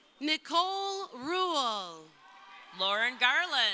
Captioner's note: crowd cheering